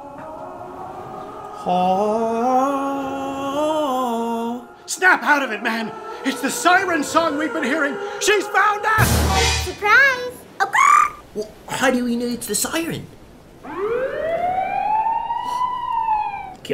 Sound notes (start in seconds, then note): 0.0 sings; 0.3 ocean sounds and singing; 4.1 sings; 10.3 bird noise; 13.6 siren noises